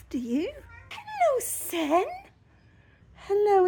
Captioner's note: meow